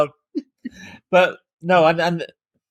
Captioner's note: laughing